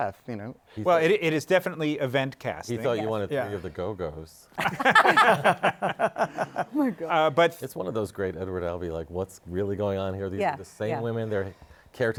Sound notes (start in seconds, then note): 4.6 laughter